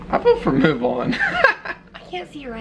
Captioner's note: chuckles